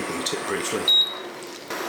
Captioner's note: beep